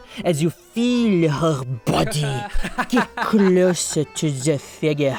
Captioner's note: laughs